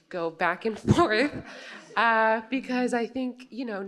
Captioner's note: laughter